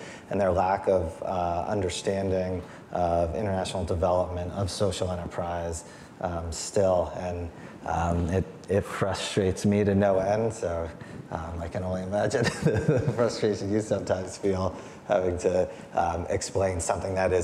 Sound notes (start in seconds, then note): 12.3 laughs